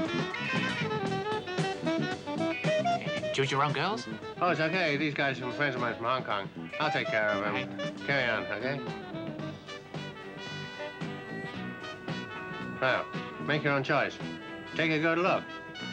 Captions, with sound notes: - (mutters) girls? - Oh, it's okay, these guys are some friends of mine from Hong Kong. I'll take care of him. Carry on, okay? (upbeat, jazzy music) Oh, make your own choice. Take a good look.